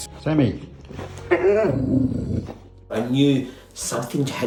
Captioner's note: growling